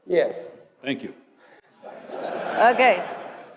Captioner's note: laugh